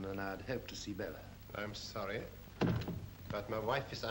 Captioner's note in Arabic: يغلق الباب